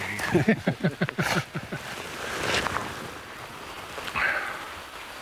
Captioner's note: Stephen and Mark laugh